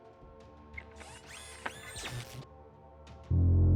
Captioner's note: Kellogg whirring; chilling tone